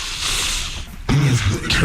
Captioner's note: sniffs